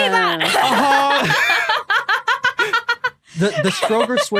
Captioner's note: laughs heartily